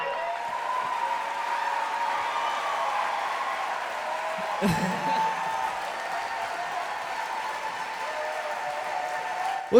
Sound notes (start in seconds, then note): 2.0 cheering; 4.4 he laughs